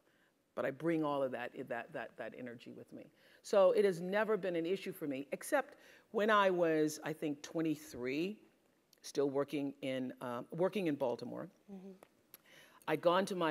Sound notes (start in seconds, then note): none